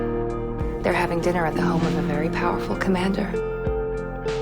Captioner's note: voiceover